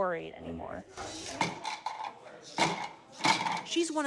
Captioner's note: blocks rattling